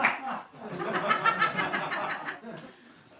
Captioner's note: laughter